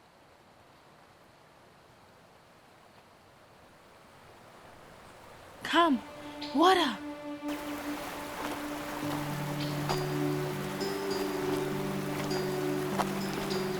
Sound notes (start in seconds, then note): 0.5 water rushing; 7.2 gentle music